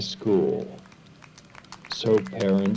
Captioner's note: audience applauds